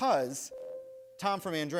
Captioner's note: bell rings